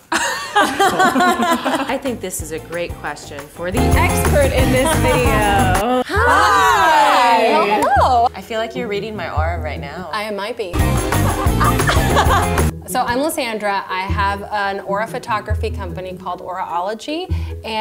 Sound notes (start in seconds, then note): 0.1 laughs; 10.6 upbeat music; 11.0 laughs